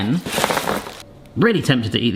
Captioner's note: Lindors clattering